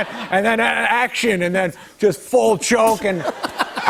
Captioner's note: laughter